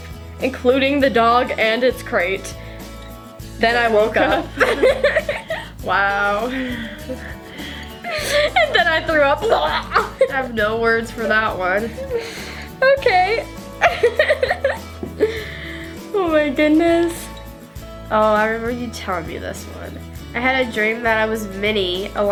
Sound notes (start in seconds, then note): 4.1 laughs; 8.1 fake-pukes; 13.8 laughs